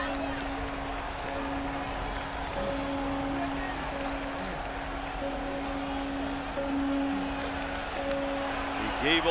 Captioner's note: applause